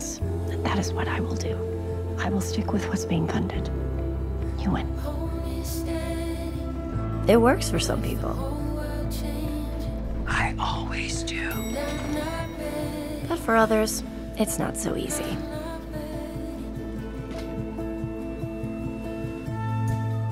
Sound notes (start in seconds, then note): 9.0 whispering; 11.4 bell chimes, doors open